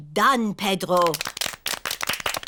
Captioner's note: all clap